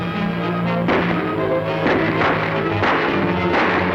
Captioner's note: firing